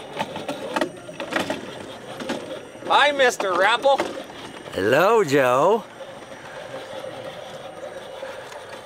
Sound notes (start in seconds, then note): 0.0 gravel crunching